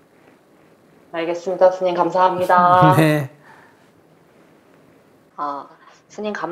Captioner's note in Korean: 스님 웃음